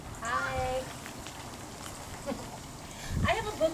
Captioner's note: sound of bird bath water trickling in background